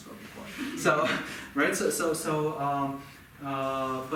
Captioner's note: audience laughing